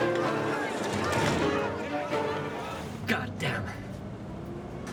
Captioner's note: door slams